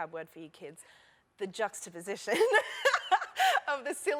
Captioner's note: laughter